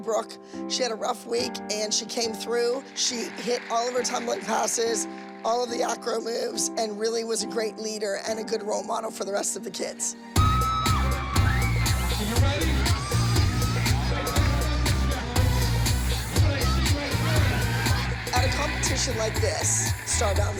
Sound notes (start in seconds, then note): 10.0 audience cheering; 10.0 dance music playing